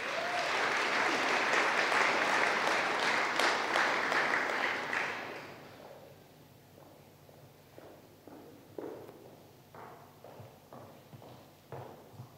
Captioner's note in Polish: oklaski